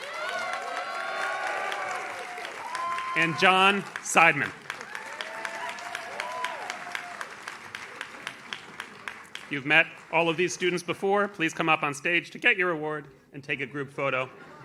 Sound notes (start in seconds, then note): 0.0 audience cheers; 5.0 audience cheers; 14.2 audience laughs